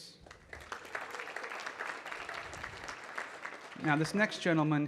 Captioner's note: audience clapping